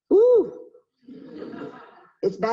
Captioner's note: audience laughing